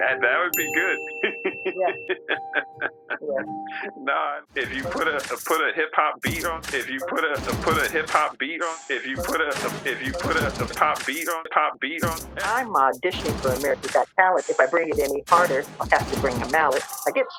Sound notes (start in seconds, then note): 1.2 laughing